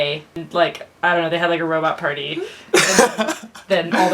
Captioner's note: laughs